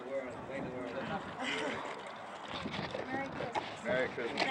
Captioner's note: chuckles